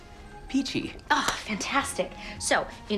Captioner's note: hands clapping